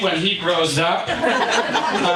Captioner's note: audience laughing